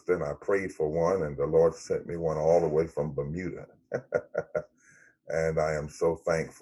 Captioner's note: laughs